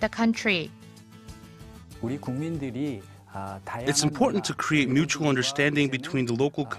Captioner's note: Korean